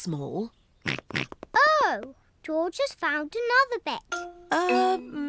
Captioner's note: snorts